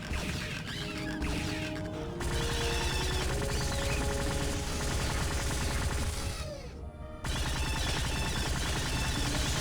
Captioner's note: electronic sounds